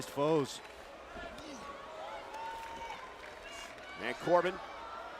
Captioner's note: crowd shouting